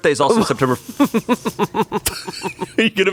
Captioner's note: laughs